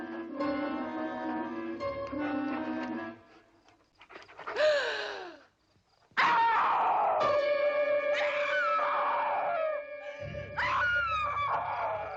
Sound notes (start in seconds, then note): 4.1 Priscilla gasps; 6.1 Priscilla screams; 7.3 dramatic music